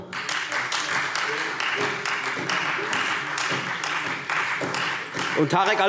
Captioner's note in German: Beifall Freie Demokraten